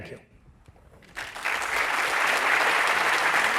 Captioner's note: applause